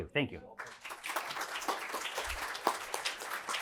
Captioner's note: applause